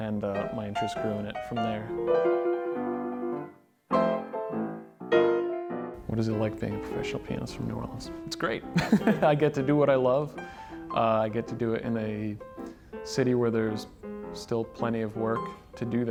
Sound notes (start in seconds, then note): 2.2 upbeat music; 8.8 laughing